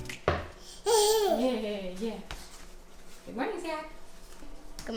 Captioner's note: baby giggles